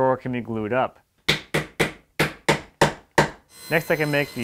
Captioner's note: mallet taps